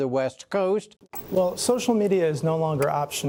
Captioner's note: TV clicking